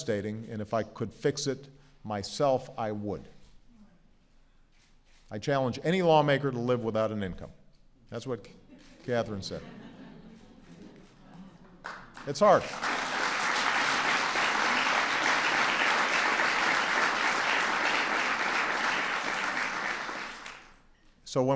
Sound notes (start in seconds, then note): 9.2 laughter; 16.8 applause